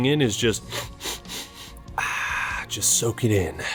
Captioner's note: sniff sniff sniff sniff